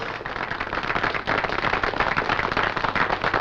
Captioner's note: applause